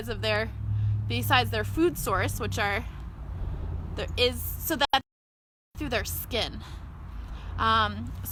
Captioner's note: breathe